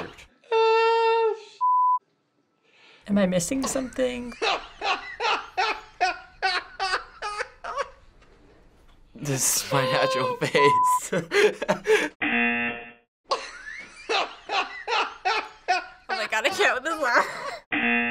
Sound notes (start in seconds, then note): 4.4 cameraman laughing